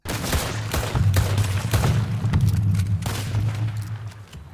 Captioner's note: gun shots firing